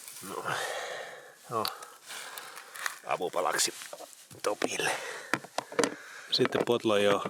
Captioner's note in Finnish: huokaus